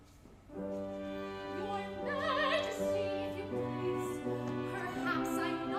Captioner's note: sarcastically